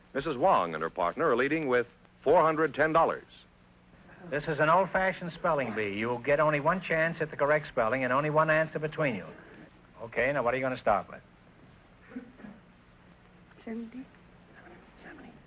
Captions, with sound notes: Mrs. Wong and her partner are leading with $410. - This is an old-fashioned spelling bee. You will get only one chance at the correct spelling, and only one answer between you. Okay, now what are you gonna start with? - (whispering) 70?